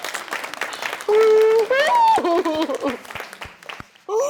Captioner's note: sobbing